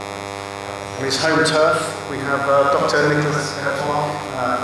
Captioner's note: speaking off mic